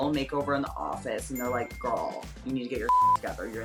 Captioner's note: beep